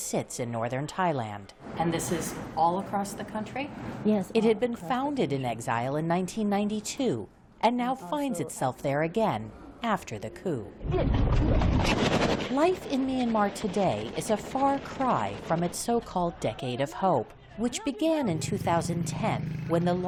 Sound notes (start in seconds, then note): 4.3 voice-over